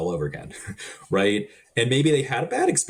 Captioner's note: chuckling